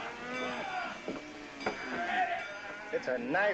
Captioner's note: man yelling